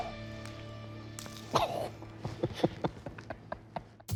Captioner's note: laughter